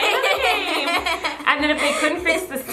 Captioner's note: laughs